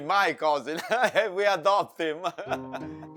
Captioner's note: laughs; both laughing